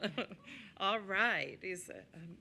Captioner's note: laughter